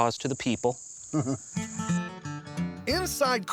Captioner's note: chuckles